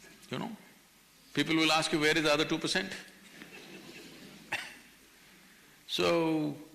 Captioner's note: few laugh; laughs